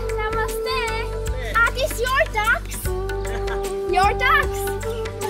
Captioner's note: laughing